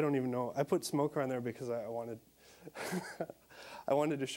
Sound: chuckling

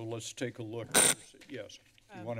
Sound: screeching noise

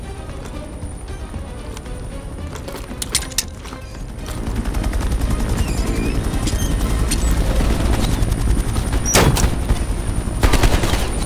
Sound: gunshots

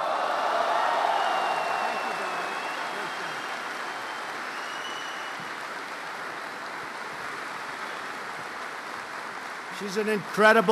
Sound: applause

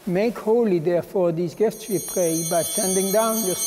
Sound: chimes ringing

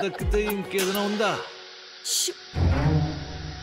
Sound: whooshing sound

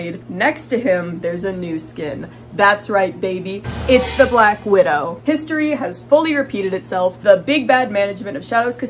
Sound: horror sound effect

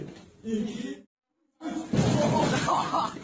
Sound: laugh sounds

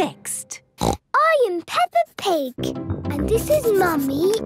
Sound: snorts

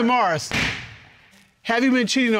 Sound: gavel bangs

